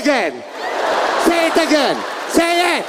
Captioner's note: audience laughing